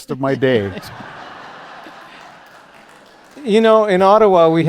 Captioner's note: laughter